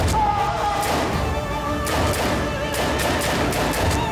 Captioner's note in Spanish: detonación de disparo